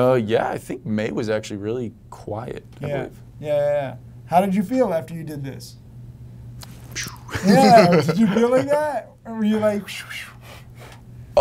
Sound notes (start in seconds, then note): 7.3 laughter